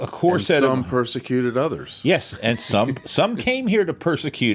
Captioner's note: laughs